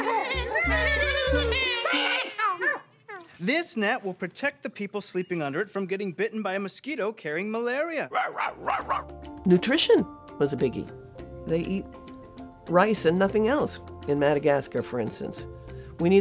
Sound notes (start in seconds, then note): 0.0 mosquitoes laughing; 8.1 dog barking; 9.5 upbeat music